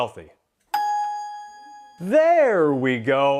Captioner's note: chime rings